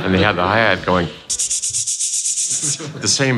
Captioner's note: hi-hat mouth sounds